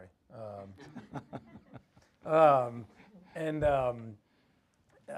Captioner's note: audience laughs